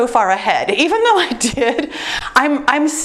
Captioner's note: laughs